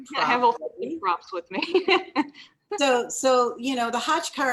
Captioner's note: laughs